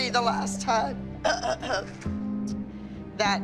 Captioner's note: clears throat